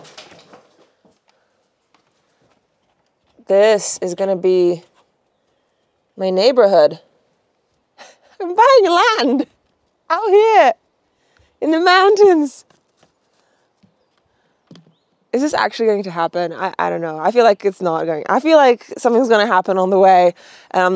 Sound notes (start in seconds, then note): 8.0 chuckles